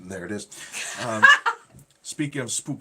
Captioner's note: laughing